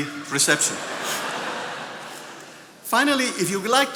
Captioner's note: attendees laughing